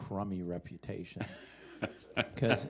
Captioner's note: chuckling